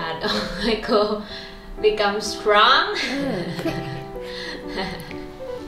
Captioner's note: laughing